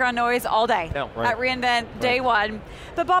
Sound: group chatter

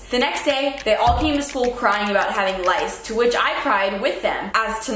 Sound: none

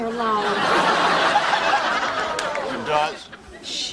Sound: audience laughing

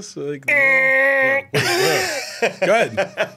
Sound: laughs

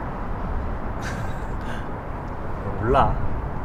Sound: Jiwoo’s laughter

